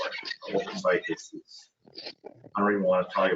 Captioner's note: distorted audio